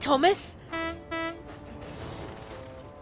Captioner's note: philip honks horn